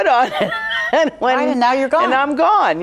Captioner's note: laughs